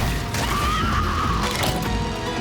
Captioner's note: screaming